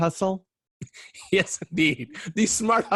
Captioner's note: chuckling